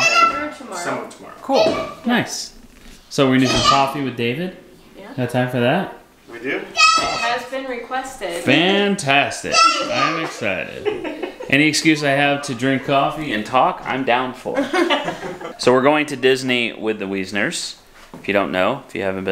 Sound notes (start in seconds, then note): 10.6 shouting excitedly; 10.7 laughter